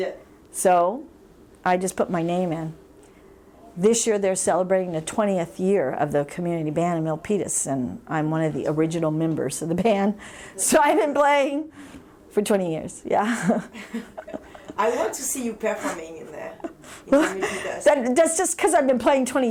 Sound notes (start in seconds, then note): 13.3 laughs